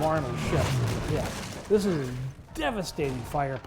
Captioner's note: cannon explodes